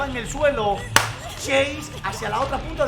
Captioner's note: claps in Spanish